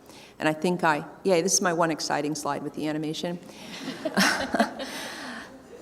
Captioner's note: chuckling